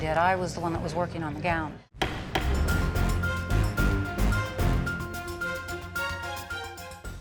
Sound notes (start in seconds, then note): 2.0 upbeat dramatic music; 2.0 gavel bangs